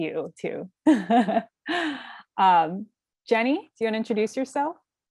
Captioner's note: laugh